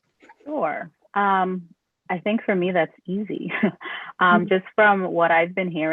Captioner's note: laughter